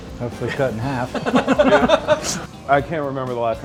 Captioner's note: laughing